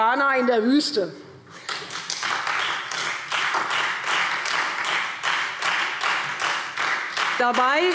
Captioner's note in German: Beifall Freie Demokraten und SPD